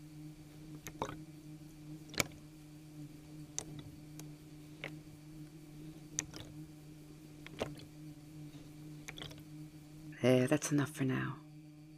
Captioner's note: water sounds